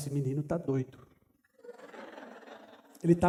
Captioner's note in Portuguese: risos